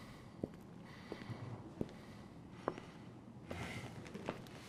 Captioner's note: footsteps echo